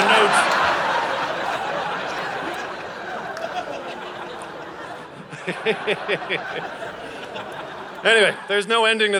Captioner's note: audience laughing